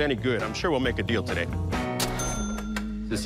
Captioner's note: cash register dings